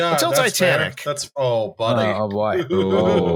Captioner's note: chuckles